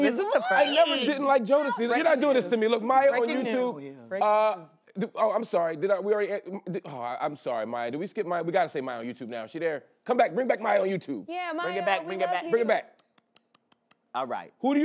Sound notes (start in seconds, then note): 6.3 stammers